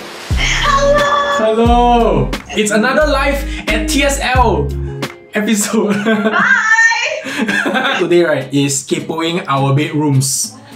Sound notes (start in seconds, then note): 7.2 laughs